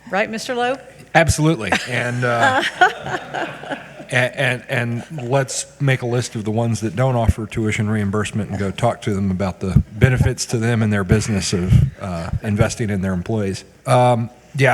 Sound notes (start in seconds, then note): 1.6 all giggling